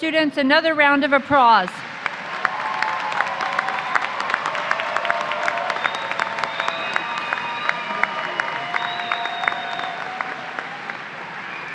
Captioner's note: applause